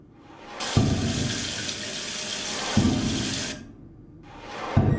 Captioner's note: sound of faucet running